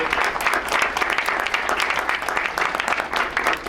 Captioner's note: crowd applauds